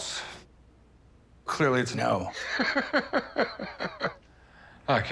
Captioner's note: laughs